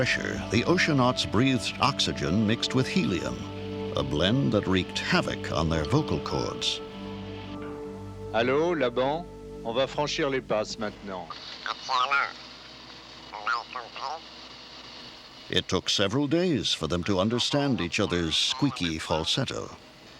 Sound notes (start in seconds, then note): 7.6 speaking french; 10.8 speaking french in high-pitched voice